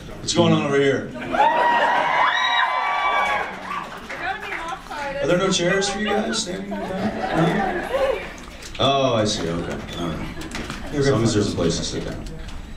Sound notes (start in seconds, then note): 1.2 audience screams and cheers